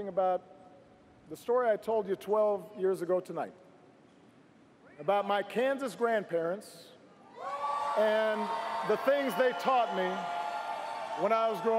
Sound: cheers & applause

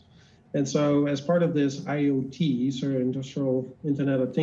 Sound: faintly speaking

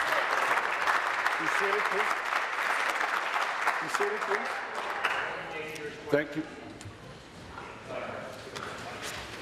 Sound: applause

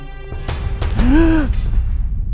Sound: gasps

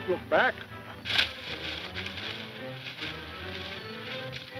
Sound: leaves rustling

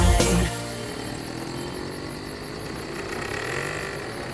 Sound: engines rumbling

